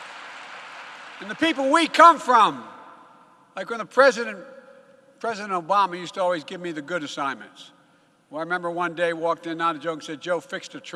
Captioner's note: applause